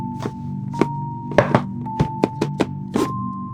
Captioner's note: bumping wood; uneasy music